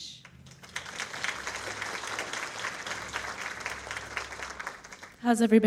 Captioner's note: audience applauds